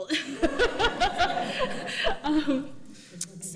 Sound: all laughing

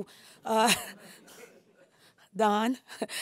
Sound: laughs

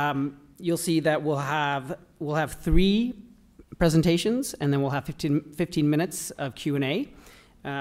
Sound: none

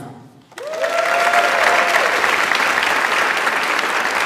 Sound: audience applauds

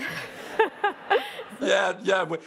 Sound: laughter

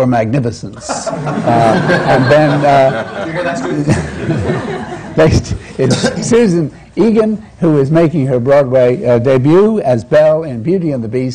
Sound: laughter

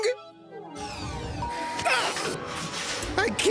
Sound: bell dings, Duckman grunts

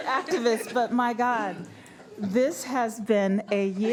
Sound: laughter

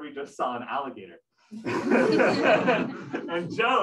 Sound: laughter

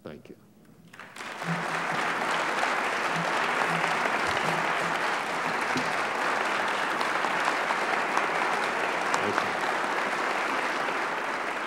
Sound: applause

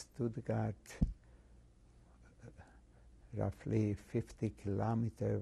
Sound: pauses for 3 seconds

